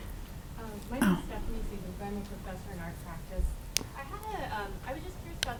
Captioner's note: voice muffled